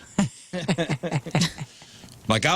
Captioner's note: laughing